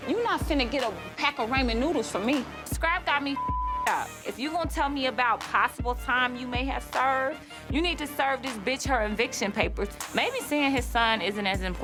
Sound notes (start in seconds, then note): 3.3 beep